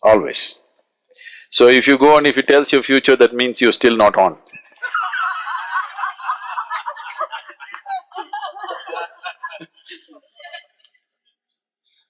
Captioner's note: laughter